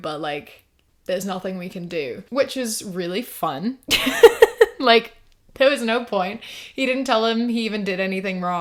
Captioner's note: laughs